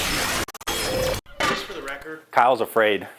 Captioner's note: electronic static sounds; clanking